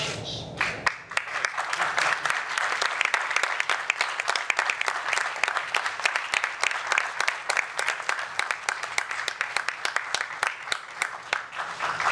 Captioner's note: applause